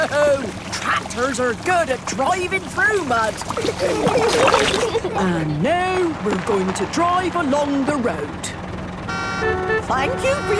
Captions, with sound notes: - No! Tractors are good at driving through mud. (giggling) And now we're going to drive along the road. (cars honking)